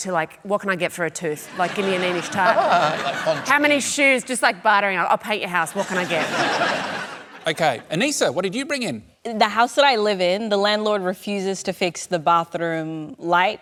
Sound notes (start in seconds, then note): 1.6 laughs; 5.7 laughter